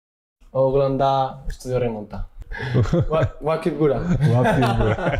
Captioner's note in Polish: śmiech